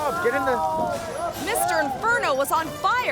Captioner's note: Mr. Inferno shouting